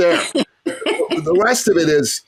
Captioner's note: laughs